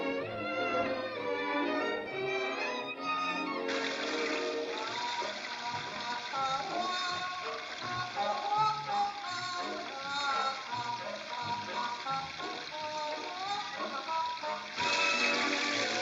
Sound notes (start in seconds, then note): 3.6 playful music; 3.6 water running